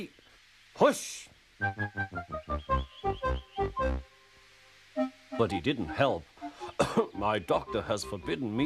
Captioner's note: clears his throat again